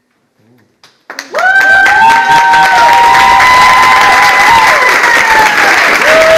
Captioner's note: audience applauds